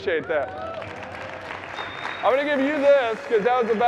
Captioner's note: audience cheering and applauding